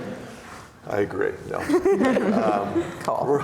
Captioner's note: laughs